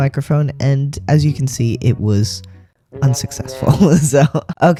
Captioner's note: laugh